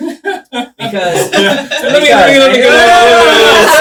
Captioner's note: laughing